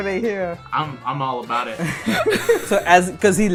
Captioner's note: laughter